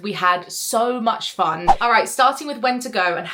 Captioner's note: screen fwipping